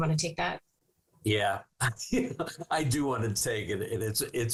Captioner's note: chuckling